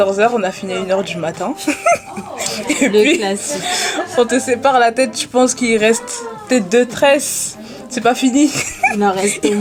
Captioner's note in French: rires